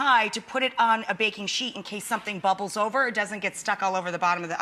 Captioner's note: none